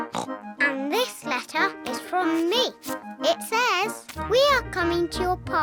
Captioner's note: oinks